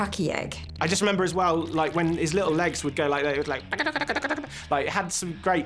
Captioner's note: skittering noise